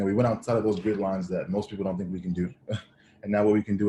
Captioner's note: chuckles